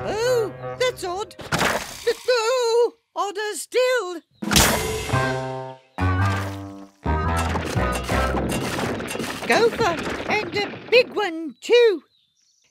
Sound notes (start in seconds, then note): 1.4 splat; 4.5 splat